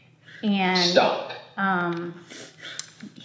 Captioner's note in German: Sprachgerät